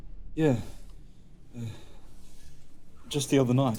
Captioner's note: none